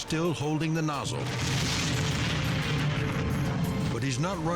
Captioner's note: pump exploding